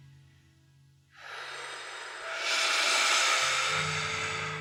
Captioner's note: exhaling loudly